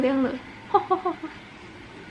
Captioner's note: laugh